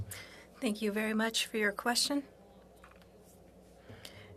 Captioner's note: speaking French